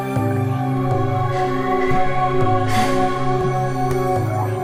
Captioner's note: breathing